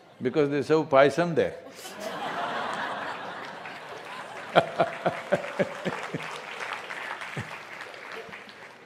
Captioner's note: laughter; laughter/Applause